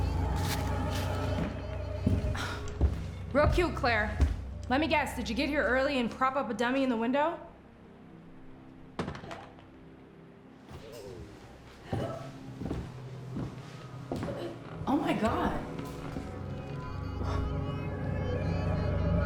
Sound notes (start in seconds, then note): 0.0 sinister music continues; 2.3 Rachel sighs; 9.2 object thuds; 13.1 gasps; 16.4 sinister music